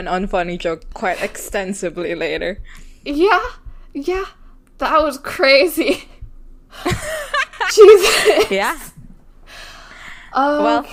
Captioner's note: laughs